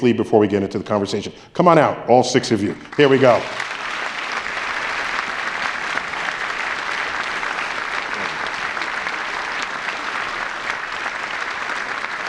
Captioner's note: applause